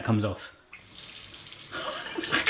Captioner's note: water running; laughing